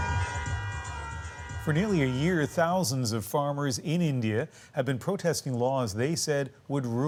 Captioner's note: honking horns